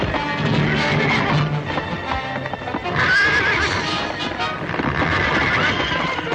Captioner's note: hooves clomping; horse neighing